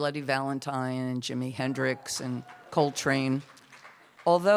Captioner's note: light applause